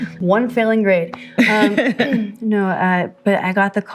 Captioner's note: laughing